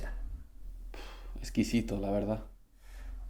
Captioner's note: sighs